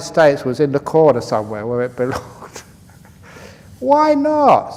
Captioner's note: laughs